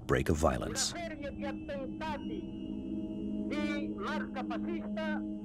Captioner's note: Italian spoken audio